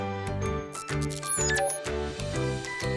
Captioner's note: blip